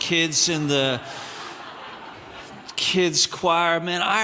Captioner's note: audience laughing